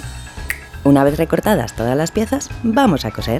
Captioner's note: snap